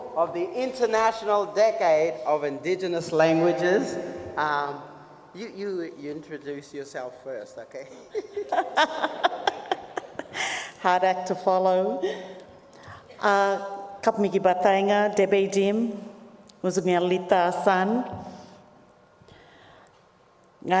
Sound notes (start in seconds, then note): 7.9 laughs; 14.2 speaks native language